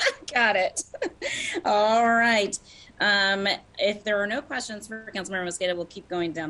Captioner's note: laughter